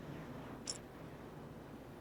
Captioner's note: coins jingle